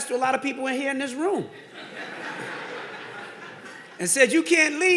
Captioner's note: audience laughing